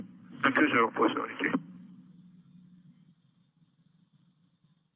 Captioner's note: men chattering